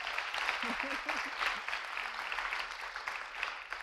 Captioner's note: audience cheering; laughing